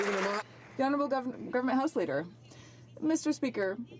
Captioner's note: some Applause